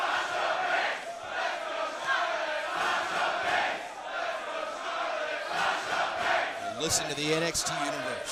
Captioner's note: crowd cheering